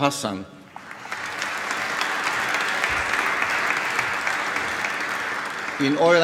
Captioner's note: applause